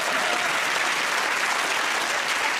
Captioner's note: applause